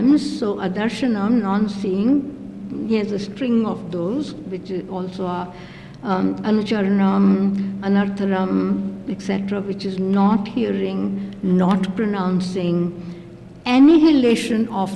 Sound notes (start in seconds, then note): 5.9 non-english